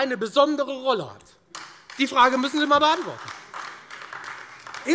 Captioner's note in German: Beifall Freie Demokraten und AfD